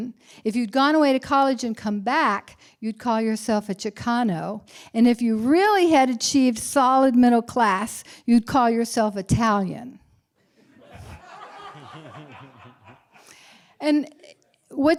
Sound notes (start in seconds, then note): 10.6 laughter